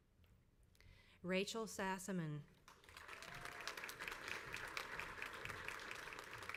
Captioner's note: crowd applauds